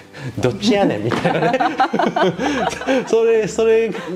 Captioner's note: laughs